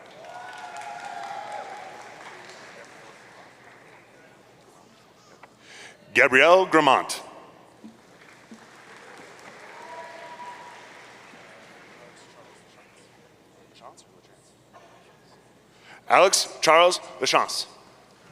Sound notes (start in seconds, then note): 0.0 audience cheering; 8.6 audience cheering